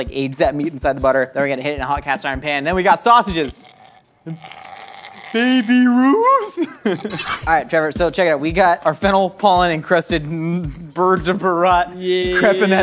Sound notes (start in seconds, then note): 3.1 groaning; 6.4 knife slices